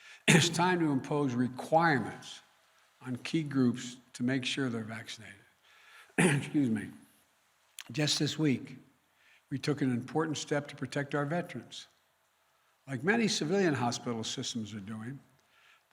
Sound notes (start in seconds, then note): 6.2 clears throat